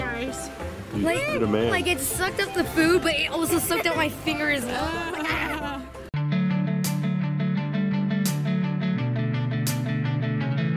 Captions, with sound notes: You're the man. - Like it sucked up the food but it also sucked up my finger as well. Ah! (laughing) (upbeat music)